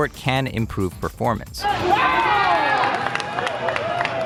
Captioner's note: massive uproar by teammates